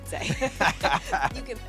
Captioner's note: both laugh